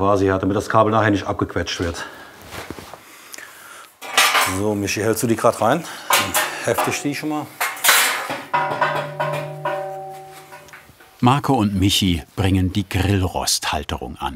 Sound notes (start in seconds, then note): 8.5 metal clinking